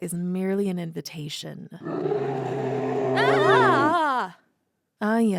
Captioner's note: sound of a roar